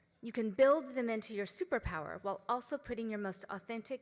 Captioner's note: none